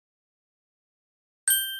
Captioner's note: ding